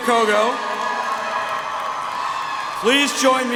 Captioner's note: audience applauds